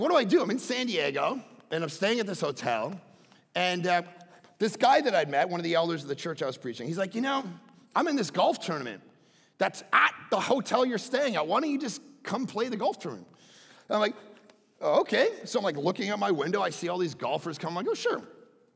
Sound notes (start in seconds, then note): none